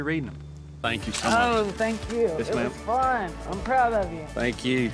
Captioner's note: none